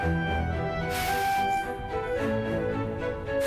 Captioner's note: bellows blowing